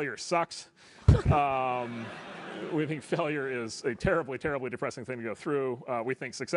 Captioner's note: laugh